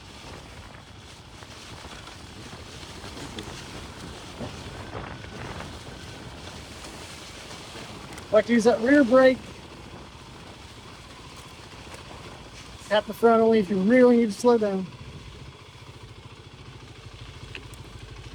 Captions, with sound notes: (motor rumbling) Like to use that rear brake. At the front only if you really need slow down.